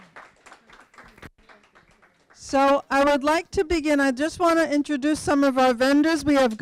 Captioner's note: applause